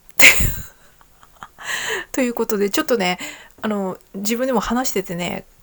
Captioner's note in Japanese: 笑い